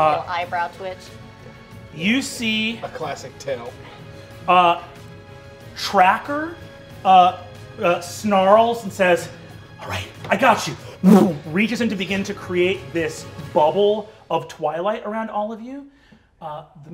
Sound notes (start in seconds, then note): none